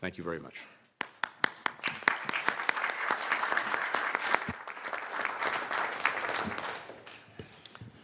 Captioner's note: applause